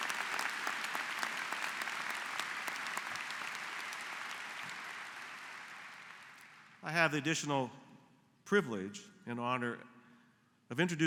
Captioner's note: applause